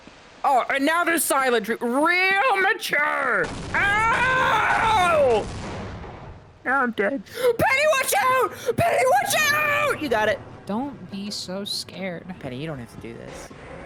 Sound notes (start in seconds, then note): 8.5 gasps